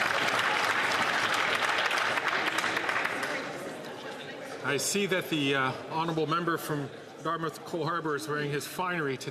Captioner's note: some Applause